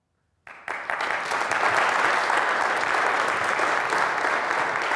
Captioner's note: audience applauds